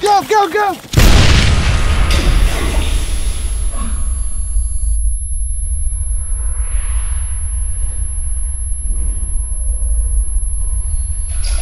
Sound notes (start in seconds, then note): 1.8 explosion roars; 3.6 man exhales